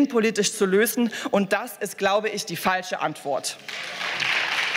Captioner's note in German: Beifall